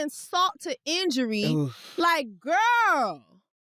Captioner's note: groans